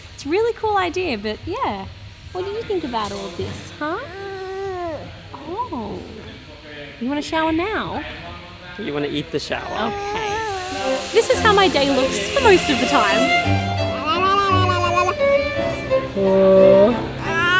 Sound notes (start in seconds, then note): 3.9 baby mumbles; 9.6 baby mumbling; 10.5 machinery running; 13.2 classical music; 13.8 baby mumbling